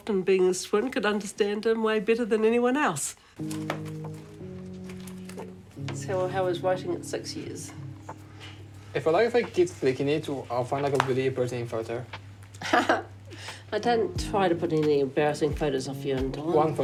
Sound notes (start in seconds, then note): 9.1 chuckles